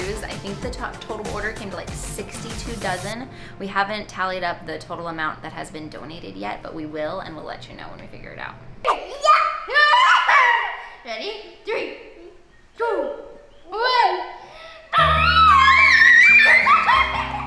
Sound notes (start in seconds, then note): 9.2 screaming; 14.9 screaming; 16.2 laughing